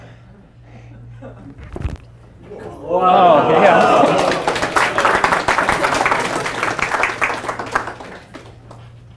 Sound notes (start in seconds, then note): 2.6 class gasps; 2.9 class applauds